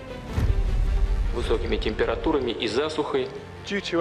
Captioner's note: Vladimir Putin speaking Russian